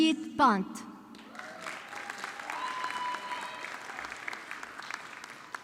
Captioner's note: audience clapping